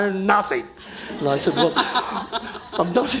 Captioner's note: audience laughing